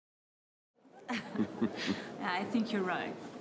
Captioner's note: Jean Lesage and Louise laugh